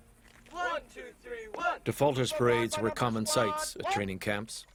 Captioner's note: voiceover